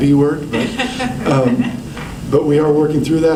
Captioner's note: laughter